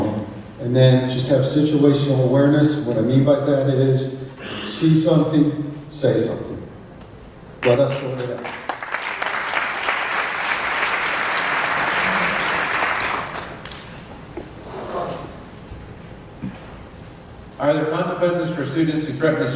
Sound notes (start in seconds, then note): 11.3 applause